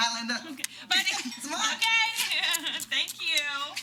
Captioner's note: chuckles